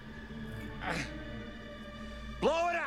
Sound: grunting

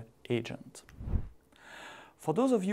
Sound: video transition swooshing

